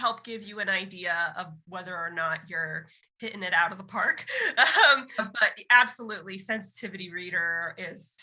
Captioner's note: laughs